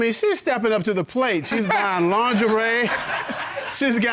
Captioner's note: audience laughing